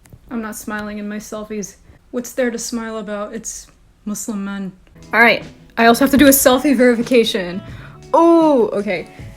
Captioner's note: none